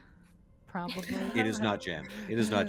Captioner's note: Hortense laughs